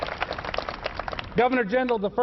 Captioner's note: applause